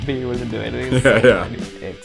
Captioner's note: laughs